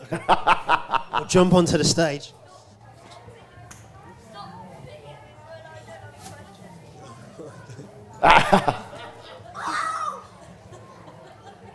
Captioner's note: audience noise